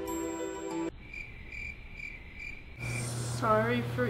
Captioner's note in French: bruit de grillons